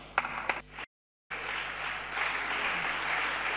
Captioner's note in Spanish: Aplausos